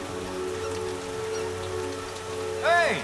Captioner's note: rhythmic squeaking